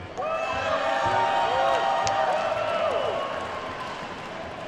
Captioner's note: audience whoops and claps